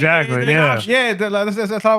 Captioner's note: non-english Speech